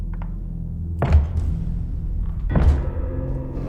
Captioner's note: slow thumping